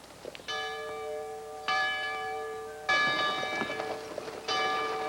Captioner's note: church bell ringing